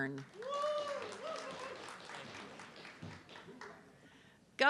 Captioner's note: audience clapping